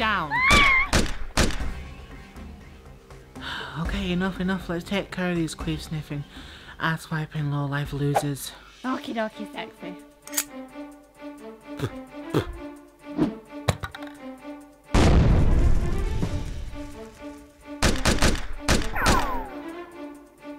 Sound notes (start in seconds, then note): 0.4 Goggins screams as bullet whizzes; 14.9 grenade explosion can be heard; 17.8 gun shots being fired can be heard